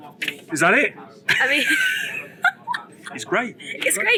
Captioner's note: laughs